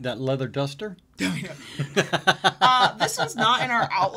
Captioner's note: laugh